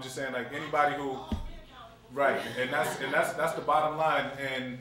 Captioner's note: laughter